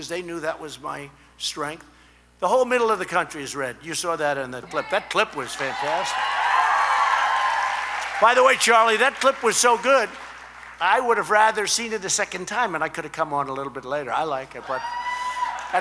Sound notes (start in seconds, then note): 5.3 applause